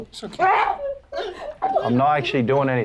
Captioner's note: Moon screams